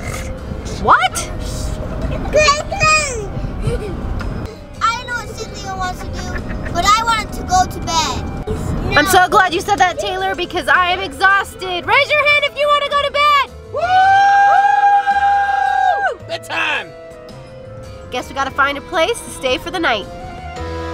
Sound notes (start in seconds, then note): 13.8 cheering